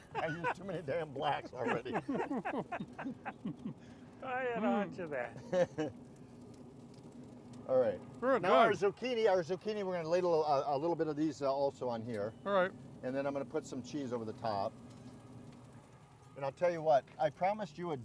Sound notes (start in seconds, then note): 0.0 laughing; 4.6 man laughing